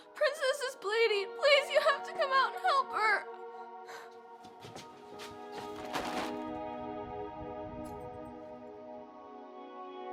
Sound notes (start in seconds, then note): 5.0 bag crinkling